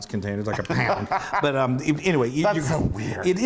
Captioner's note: laugh